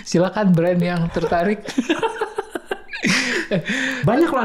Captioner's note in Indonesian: tertawa